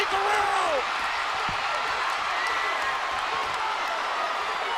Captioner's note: audience cheers